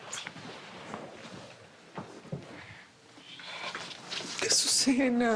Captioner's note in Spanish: Susurra